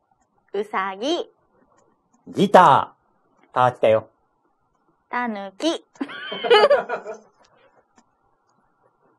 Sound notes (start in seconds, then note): 6.0 laughs